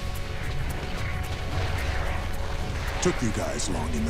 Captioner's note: none